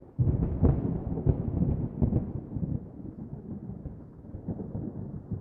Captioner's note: thunder